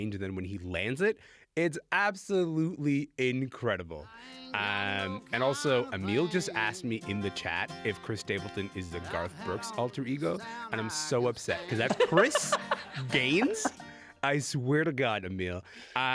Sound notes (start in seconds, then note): 11.6 laughing